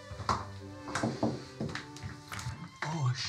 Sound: knocks lightly

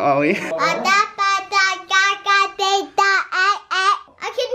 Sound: baby talk

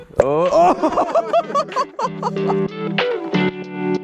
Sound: laughter; mellow guitar music

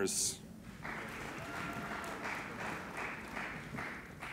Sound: applauding

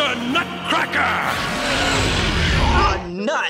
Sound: roaring

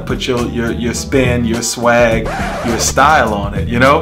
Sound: record screeching

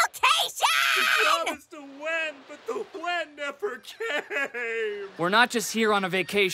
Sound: crying

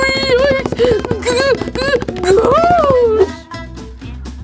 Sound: Scooby screams

